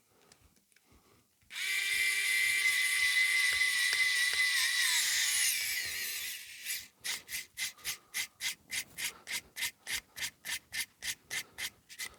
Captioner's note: scratching